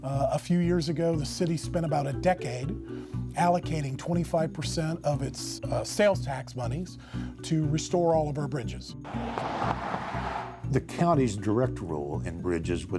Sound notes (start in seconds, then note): 9.0 sound of car passing